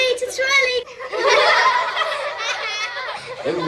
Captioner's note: giggling